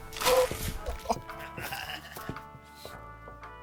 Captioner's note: laughs; Larry laughs